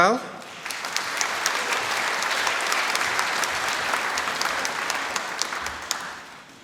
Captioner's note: applause